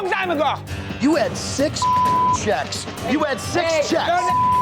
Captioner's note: beeps